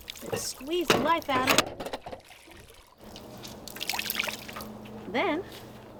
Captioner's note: water sloshing